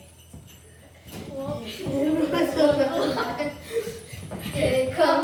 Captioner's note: chuckling